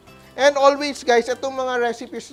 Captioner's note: sizzles